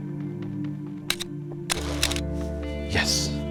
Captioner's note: click of camera